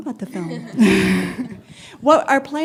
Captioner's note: laughter